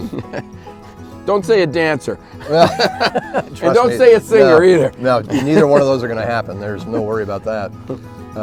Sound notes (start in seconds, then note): 2.4 laughter